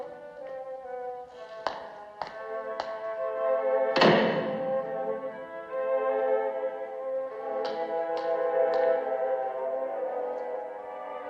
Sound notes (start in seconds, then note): 3.9 door Closes